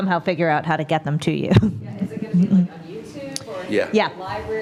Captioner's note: laugh